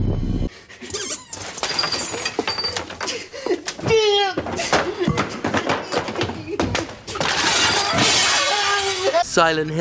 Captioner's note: sounds of a room being upended